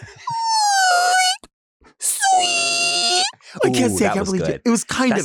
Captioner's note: imitates screeching noise